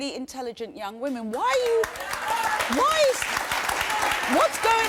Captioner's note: applause